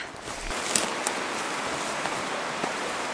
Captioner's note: walking and brush breaking noises